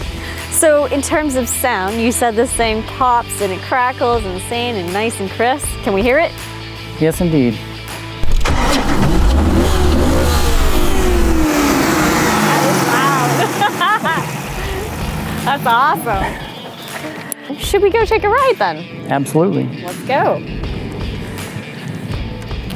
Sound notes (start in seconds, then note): 12.2 laughs